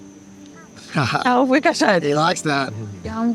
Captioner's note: Dylan laughs; interpreter speaking in foreign language